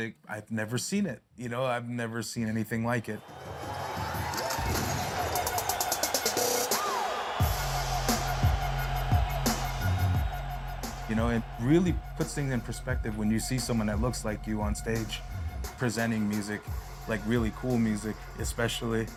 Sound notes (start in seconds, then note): 3.2 beat playing; 7.4 crowd cheering